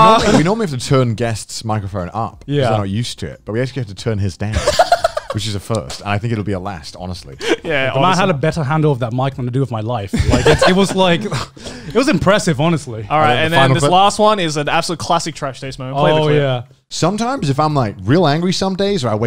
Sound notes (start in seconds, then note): 4.5 laughs